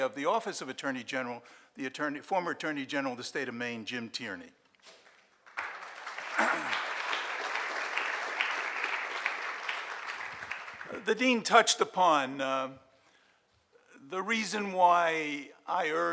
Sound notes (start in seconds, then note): 5.4 audience applauds